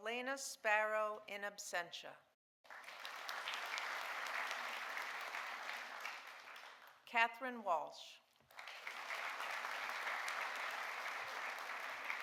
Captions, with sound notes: Elena Sparrow, in absentia. (audience applauding) Katherine Walsh. (audience applauding)